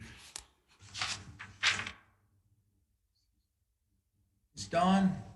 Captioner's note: papers shuffling